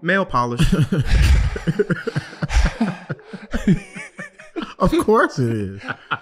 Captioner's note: group laughing